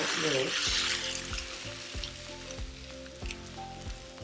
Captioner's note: rocks clinking